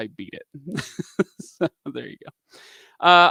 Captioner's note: laughs